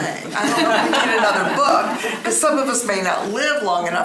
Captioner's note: laughing